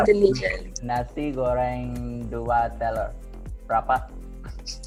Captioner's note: speaks in Bahasa